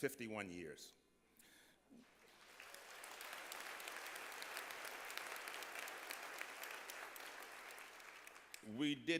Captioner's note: applause